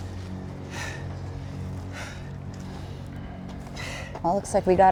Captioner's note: breathing heavily